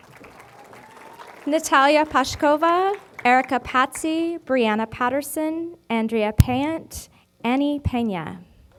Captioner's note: applause